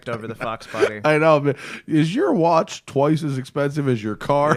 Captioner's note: laughter